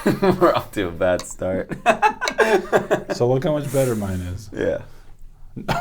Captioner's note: laughter